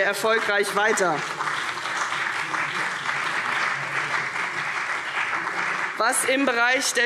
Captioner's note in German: Beifall CDU und BÜNDNIS 90/DIE GRÜNEN